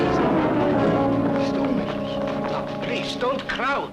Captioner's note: guests mumbling to each other